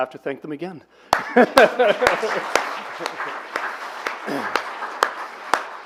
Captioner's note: applause